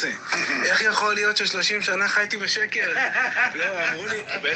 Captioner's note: laughing